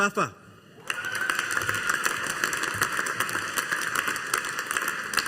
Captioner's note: audience applauding